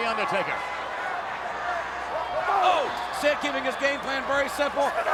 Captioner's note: applause